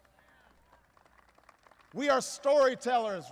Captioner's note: applause